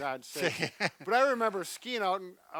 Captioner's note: laughs